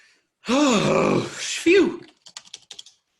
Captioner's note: sighs